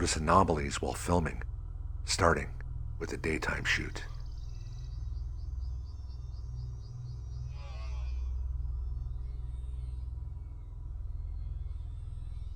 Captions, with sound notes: We began to notice anomalies while filming, starting with a daytime shoot. (metallic voice groaning)